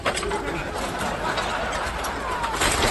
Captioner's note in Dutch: gelach